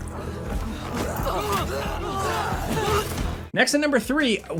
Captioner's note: Senua grunting; enemies groaning